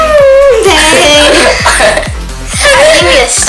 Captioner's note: sighs loudly